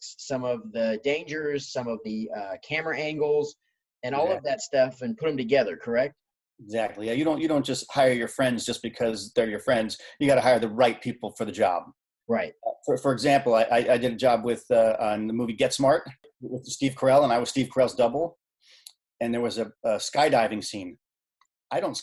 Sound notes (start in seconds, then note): none